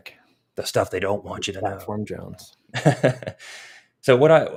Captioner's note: chuckles